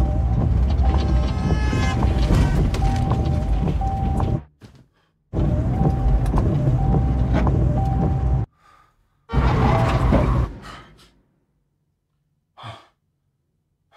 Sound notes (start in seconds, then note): 0.9 car horn blaring; 9.3 car skidding, horn blaring; 10.5 gasping